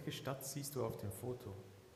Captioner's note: speaking german